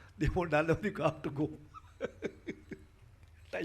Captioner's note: laughs